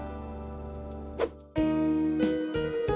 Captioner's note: gentle music; upbeat music; swoosh